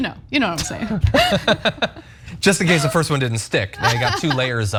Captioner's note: laugh